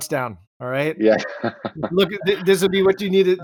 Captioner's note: laughing